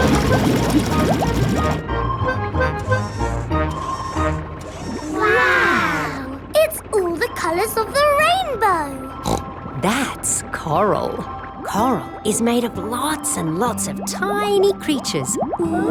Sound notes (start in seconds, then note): 9.2 snorts